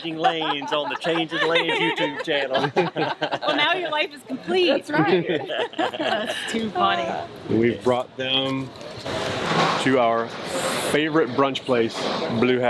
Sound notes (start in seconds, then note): 2.9 people chuckle